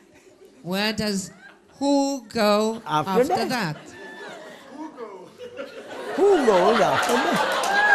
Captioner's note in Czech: smích